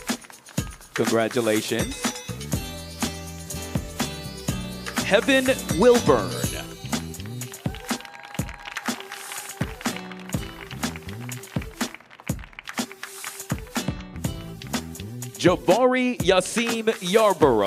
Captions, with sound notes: Congratulations. Heaven Wilburn. (audience applauding) (audience cheering) Jobari Yasem Yarbrough.